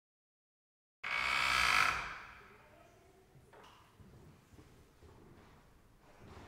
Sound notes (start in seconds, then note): 1.0 creak of door opening